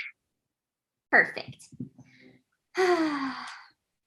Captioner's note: sighs